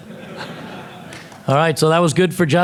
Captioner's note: audience laughing